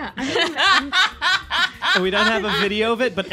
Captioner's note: laughter